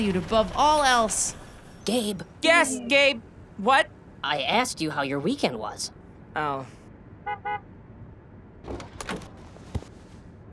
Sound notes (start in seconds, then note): 7.2 car horn